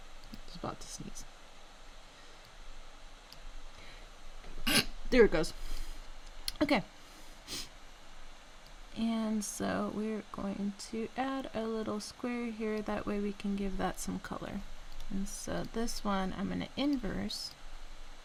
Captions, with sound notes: it's about to sneeze **sneeze** there it goes okay and so we're going to add a little square here that way we can give that some color and so this one i'm going to inverse